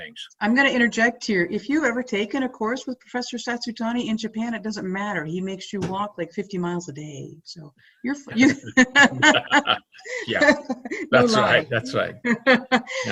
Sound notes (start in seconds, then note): 8.3 laughing